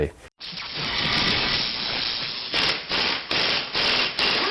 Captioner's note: drilling sounds